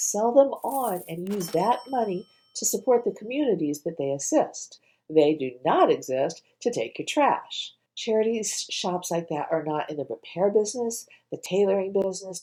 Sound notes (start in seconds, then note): 0.6 cash register sound